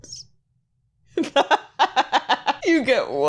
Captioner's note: laughing